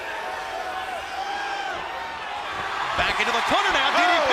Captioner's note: crowd cheering